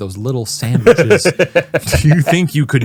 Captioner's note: laughing